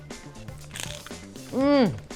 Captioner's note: food crunches